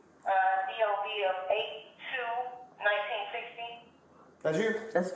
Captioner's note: radio chatter